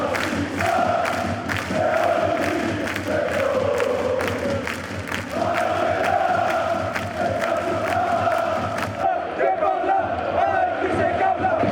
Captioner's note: applause